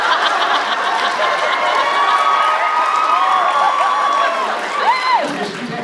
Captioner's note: laughs; cheers, applauds